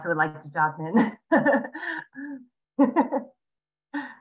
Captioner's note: laughs